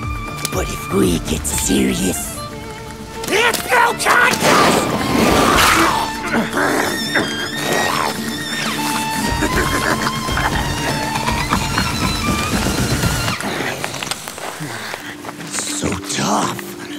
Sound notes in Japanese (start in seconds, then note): 6.0 噛みつく音; 8.4 ハイエナの笑い声